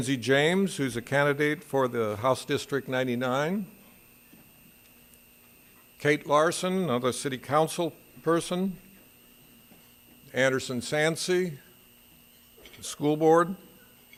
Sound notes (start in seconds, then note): none